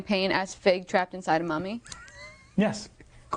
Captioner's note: laughing